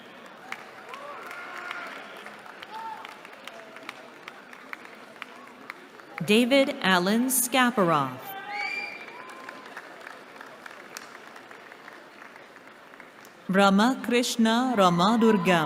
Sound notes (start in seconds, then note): 0.0 cheering; 8.6 applause